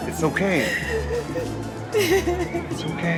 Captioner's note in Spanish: Sollozos